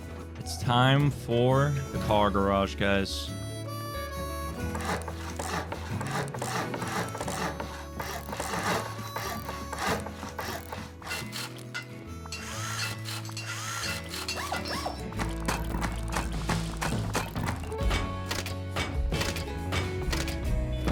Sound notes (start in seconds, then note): 17.8 plunk; 18.2 click; 18.8 plunk; 19.2 click; 19.8 plunk; 20.2 click